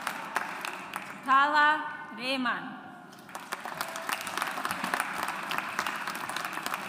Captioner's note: audience applauds